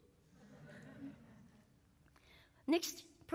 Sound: laughter

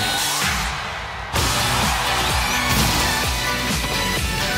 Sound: guns exploding

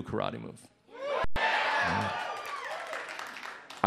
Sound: audience cheers

